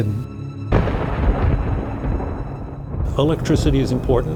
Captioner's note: thunder rumbling